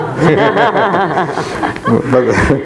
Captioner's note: laughs loudly